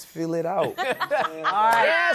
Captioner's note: laughter